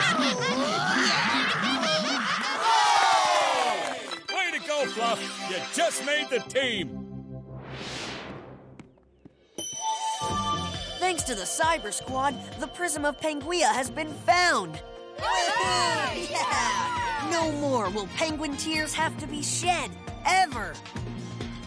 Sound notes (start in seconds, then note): 3.6 cheering; 15.2 cheering